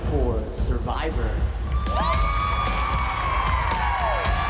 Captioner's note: applause, cheering, whooping